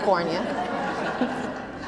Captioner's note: laughter